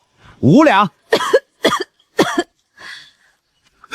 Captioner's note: cough cough cough